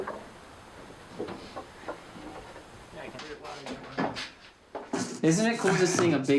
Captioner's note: people chattering